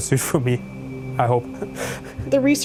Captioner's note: laughing